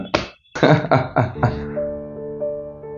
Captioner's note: laughs